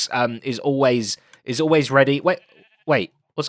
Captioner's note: dispenser clicks